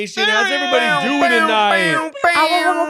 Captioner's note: speakers shouting